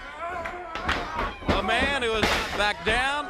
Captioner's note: crowd chatter